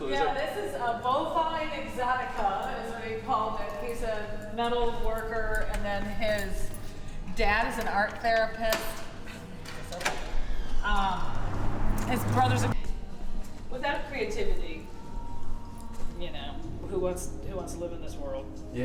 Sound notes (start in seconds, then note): 10.5 loud wind cut off conversation